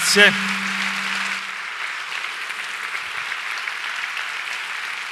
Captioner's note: applause